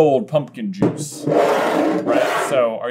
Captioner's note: bottle slides across table